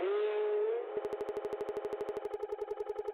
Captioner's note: audio stutters